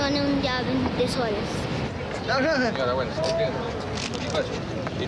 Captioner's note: men speaking native language